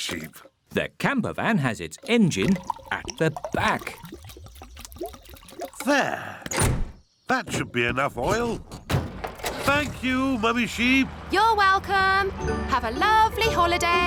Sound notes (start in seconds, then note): none